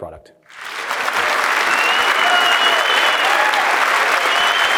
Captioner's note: applause